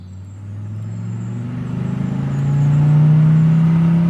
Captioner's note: police car engine revving